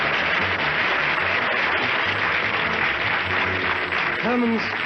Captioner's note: applause